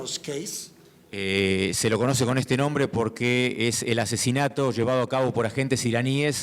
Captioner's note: speaking in foreign language